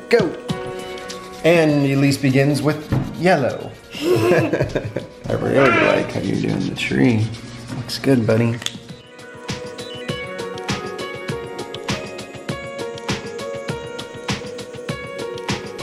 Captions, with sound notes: go! And Elise begins with yellow. (both laughing) I really like how you're doing the tree. Looks good, buddy. (peppy music)